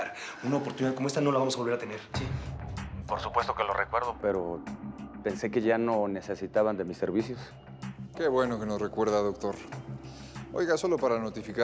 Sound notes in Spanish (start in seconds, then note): 3.1 Voz del Doctor